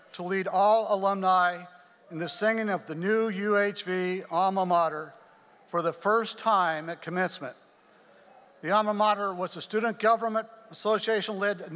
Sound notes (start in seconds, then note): none